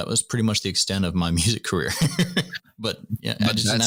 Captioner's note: laughter